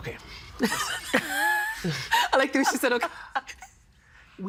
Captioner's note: laughing